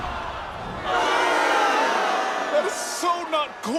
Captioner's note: crowd boos